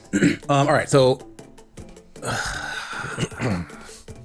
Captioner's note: long sigh